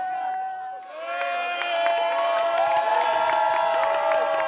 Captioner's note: cheering